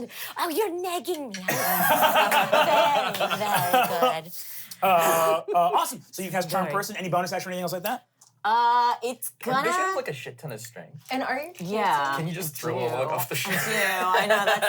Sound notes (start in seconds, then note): 1.5 laughs